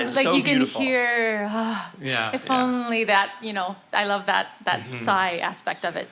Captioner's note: sighs